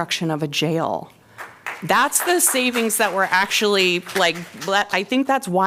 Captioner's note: applause